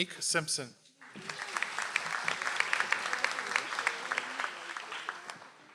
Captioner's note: audience applauds